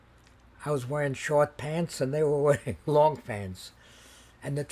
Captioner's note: laughing